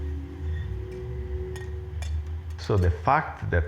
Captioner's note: tranquil music; dishes clanging